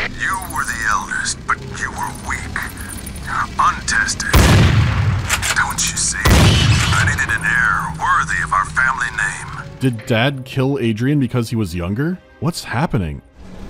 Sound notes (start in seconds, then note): 4.2 bang